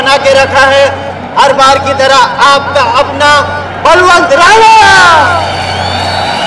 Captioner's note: Crowd cheering